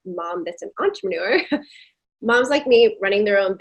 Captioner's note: chuckling